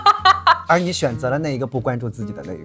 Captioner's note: laughs